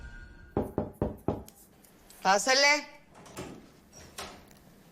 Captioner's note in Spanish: Toques en la puerta